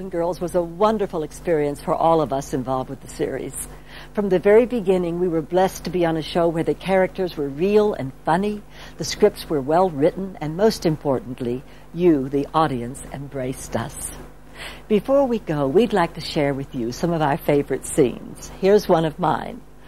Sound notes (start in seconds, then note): none